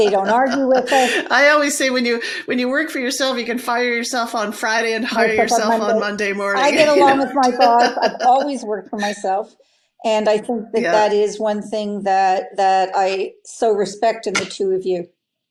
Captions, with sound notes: They don't argue with us. - I always say when you work for yourself, you can fire yourself on Friday and hire yourself on Monday morning. (laugh) - I get along with my boss. I've always worked for myself, and I think that that is one thing that I so respect in the two of you,